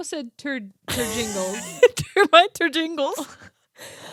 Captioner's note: both laughing